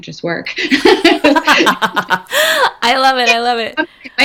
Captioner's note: laughing